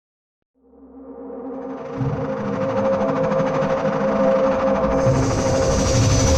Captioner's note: aircraft whirring; tense music